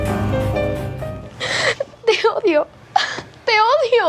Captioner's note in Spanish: llora